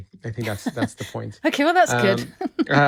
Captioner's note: chuckles